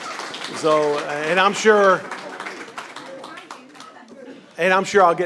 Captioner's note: applause